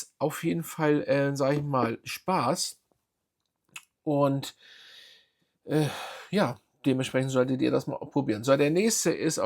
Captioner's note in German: seufzt